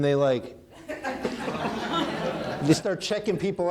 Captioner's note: audience laughing